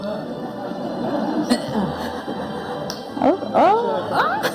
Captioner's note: audience laughing